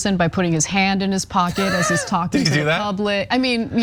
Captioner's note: laugh